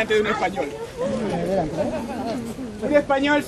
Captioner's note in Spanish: el público comenta